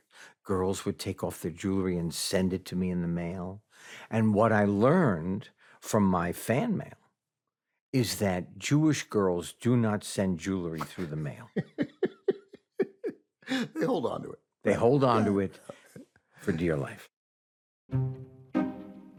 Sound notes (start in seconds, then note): 10.8 laughs